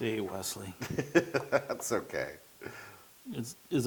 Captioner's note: laugh